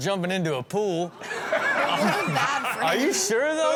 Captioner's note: audience laughs